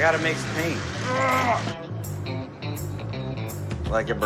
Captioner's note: grunts